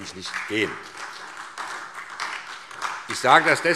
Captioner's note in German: Beifall